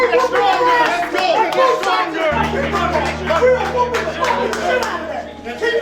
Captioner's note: yelling, Cheering, Yelling